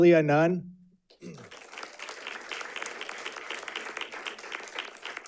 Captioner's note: audience clapping